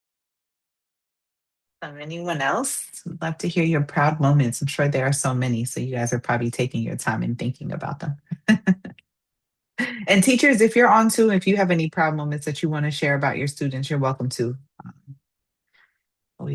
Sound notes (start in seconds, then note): 8.3 laughs